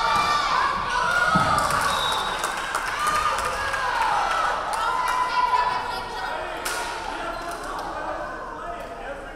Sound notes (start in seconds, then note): 1.4 crowd clapping; 1.7 referee whistling